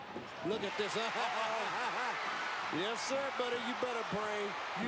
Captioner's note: laugh